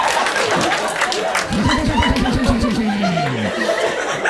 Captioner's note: evil Anime laugh